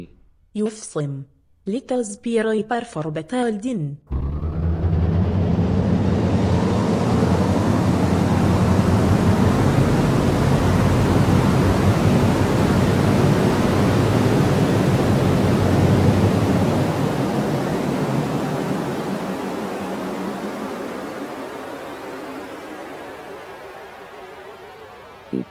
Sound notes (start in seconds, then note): 4.0 spaceships taking off